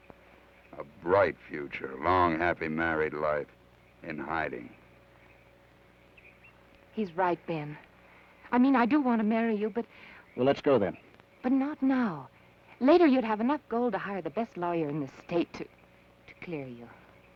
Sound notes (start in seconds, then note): none